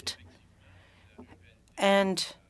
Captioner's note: speaking French